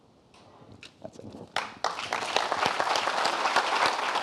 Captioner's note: applause